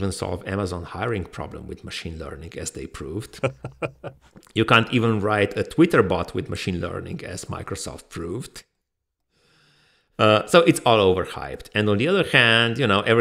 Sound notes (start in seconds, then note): 3.3 laughs softly